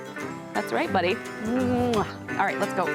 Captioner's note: mwah